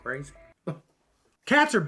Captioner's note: paranoid scoff